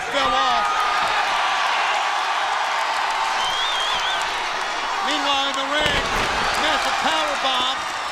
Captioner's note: crowd cheering